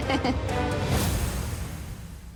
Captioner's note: laughs